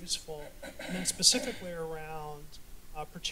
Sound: clears throat

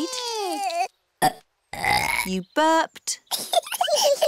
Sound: both bawling; both burping; both giggling

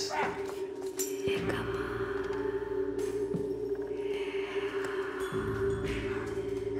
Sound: noises of bards fighting continue; disembodied whisper

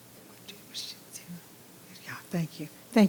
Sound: whispering

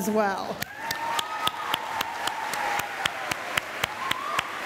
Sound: applause

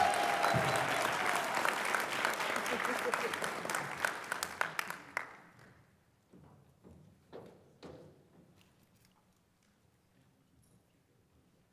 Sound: applause

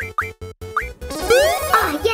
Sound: game sounds

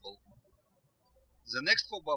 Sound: birds chirping

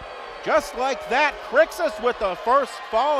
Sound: crowd booing

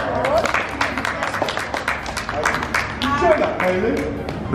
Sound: audience claps

